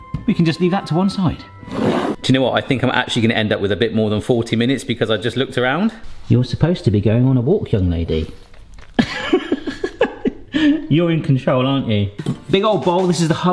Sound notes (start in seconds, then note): 8.8 laughs